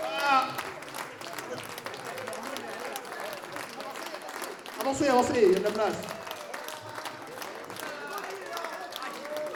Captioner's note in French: Applaudissements